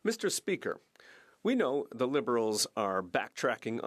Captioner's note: speaking French